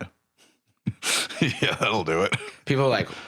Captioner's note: laughing